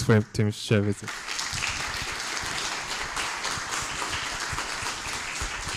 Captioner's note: applause